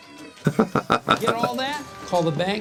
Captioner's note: Gould laughs